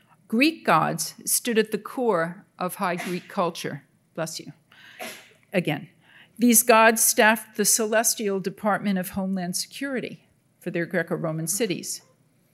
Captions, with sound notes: Greek gods stood at the core of High Greek culture. (Audience member sneezing) Bless you. (Audience member sneezing) Again. These gods staffed the Celestial Department of Homeland Security for their Greco-Roman cities.